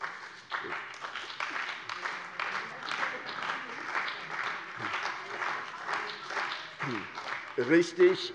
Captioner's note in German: Beifall bei der CDU und dem BÜNDNIS 90/DIE GRÜNEN